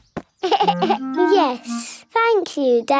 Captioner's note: giggles